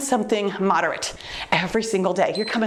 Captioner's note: timer beeps